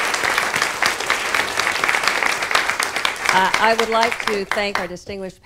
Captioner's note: applause